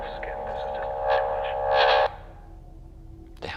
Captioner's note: interference continues